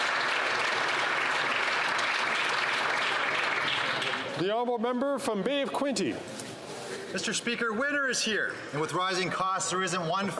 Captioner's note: applause